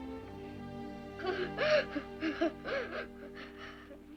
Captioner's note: sobbing